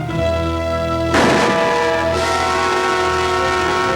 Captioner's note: gun shot